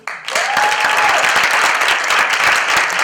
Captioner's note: applause